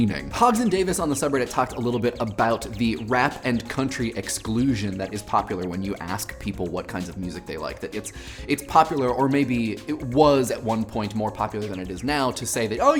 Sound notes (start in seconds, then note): none